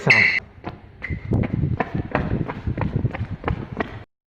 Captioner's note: frantic running intensifies